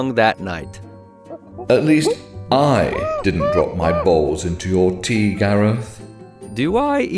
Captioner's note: ape noises